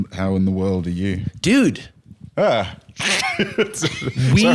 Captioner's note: laughs